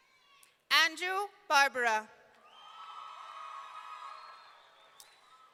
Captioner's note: audience cheering